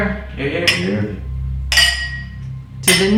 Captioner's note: glasses clinking